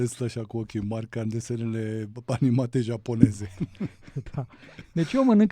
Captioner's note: laughter